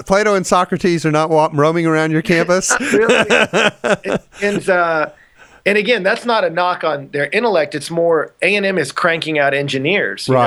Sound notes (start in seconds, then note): 2.3 laughs